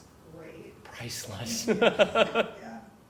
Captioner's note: laugh